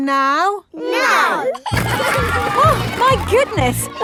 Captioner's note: giggling